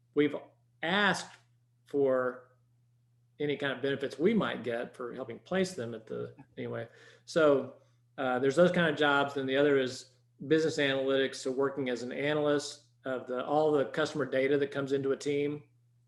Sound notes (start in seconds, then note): 6.5 chuckles